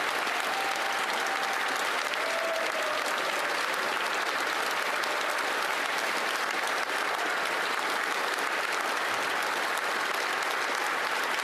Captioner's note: applause